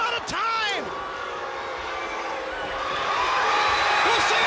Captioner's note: audience jeers; audience applauds and cheers